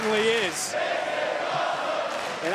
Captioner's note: applause